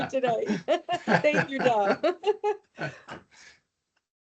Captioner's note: laughing